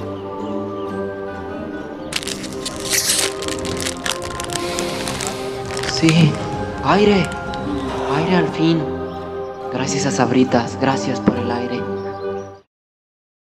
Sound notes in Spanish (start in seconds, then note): 4.5 respirar